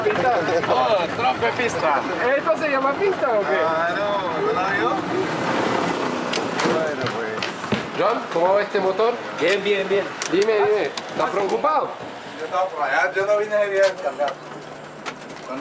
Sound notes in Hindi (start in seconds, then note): 1.2 स्पैनिश बोलते हुए